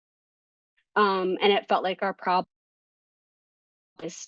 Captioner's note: audio cuts out